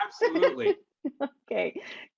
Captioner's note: laughs